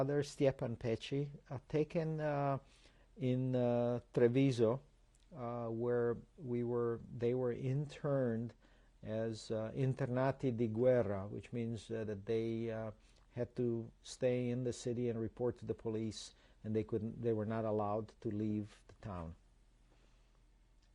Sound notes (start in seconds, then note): 9.6 non-english